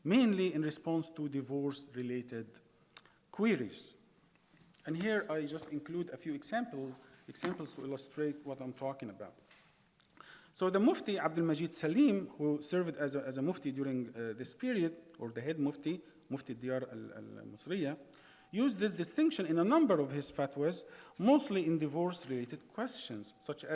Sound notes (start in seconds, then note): 16.4 speaking in foreign language